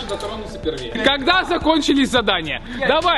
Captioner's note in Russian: смеется